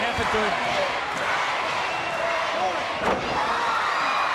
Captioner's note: crowd cheering